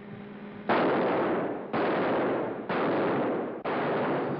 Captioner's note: gun fires